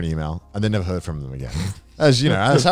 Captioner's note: snorting